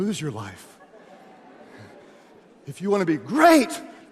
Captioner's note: audience laughs